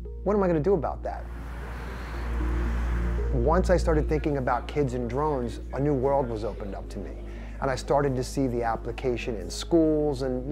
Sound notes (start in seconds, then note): 1.0 traffic rumbling; 1.3 background chattering